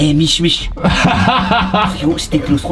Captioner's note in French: rire